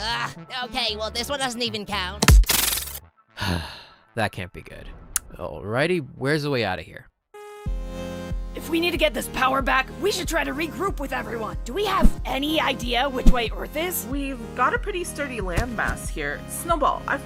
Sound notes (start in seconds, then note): 3.4 sigh